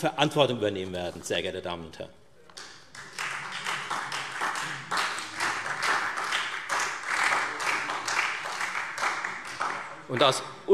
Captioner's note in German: Beifall Freie Demokraten und SPD